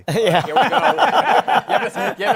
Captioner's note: laughter